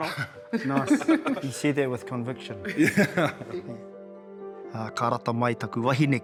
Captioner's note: chuckles; laughter